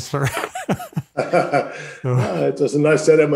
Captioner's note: both laugh